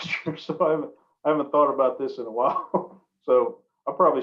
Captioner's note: laughs